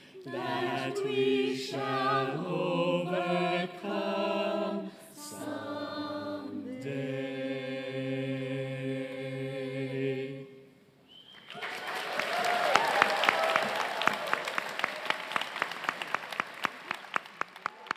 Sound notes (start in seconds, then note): 11.3 crowd clapping; 11.4 crowd cheering